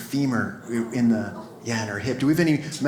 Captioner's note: audience laughs